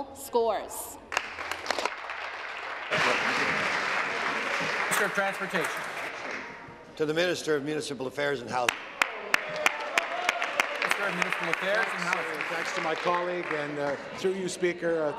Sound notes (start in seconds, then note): 4.5 applause